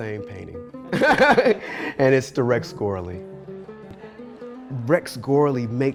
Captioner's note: laughs